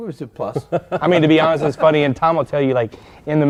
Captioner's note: laughter